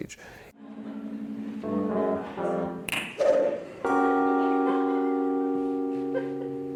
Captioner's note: whimsical electronic music; finger snaps